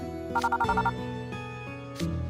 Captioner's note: ring ring…